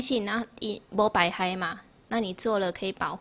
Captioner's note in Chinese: 台語